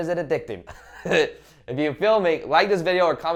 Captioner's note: laughing